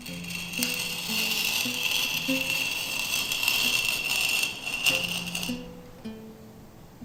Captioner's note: scraping sound